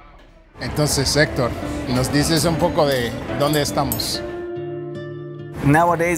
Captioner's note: speaking in a foreign language